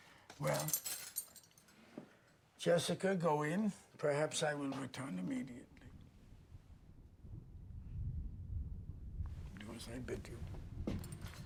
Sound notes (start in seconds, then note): 6.5 thunder rumbling